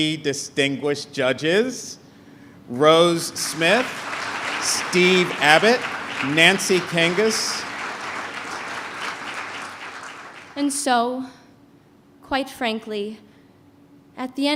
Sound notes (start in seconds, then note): 9.4 applause